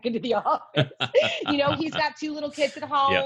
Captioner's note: laughs